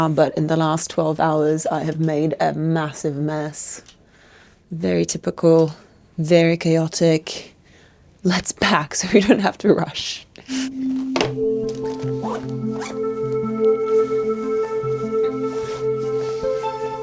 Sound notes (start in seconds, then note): 10.5 soft melodic music; 10.7 plastic thuds; 12.3 zipper zips; 15.4 fabric rustling